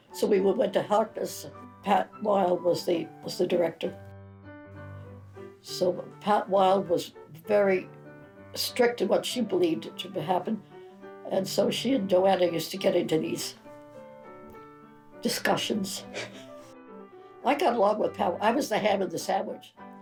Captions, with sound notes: So we went to Harkness, Pat Wilde was the director. So Pat Wilde was very strict in what she believed should happen. And so she and JoAnna used to get into these discussions (chuckles). I got along with Pat. I was the ham in the sandwich